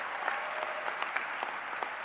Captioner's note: cheers and applause